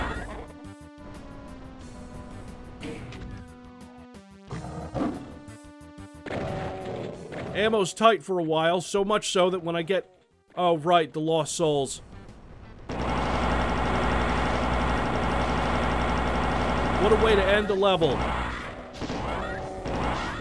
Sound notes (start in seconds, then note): 0.0 plasma gun noises; 12.9 plasma gun sounds